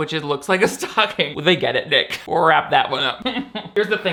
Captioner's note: laughs; laughs